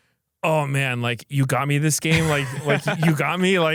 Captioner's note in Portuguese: risos